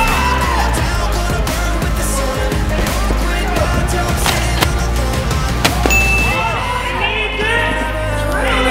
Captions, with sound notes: Oh! [CHIME] He made it through.